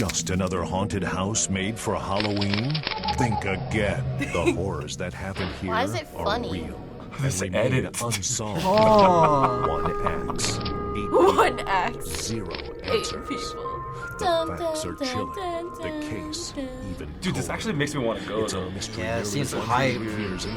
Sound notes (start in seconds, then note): 4.2 laughs; 7.8 laughs